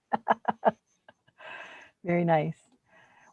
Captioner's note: laughing